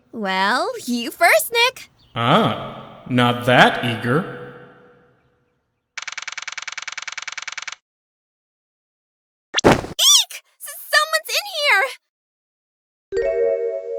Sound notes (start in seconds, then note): 9.6 thud!